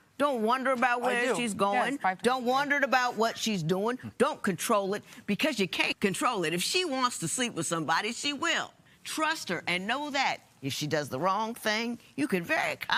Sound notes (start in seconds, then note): none